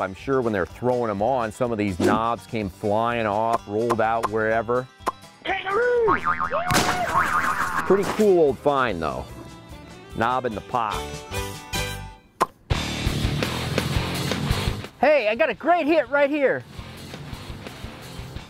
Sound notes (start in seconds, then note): 6.5 bouncing noise; 12.6 rock music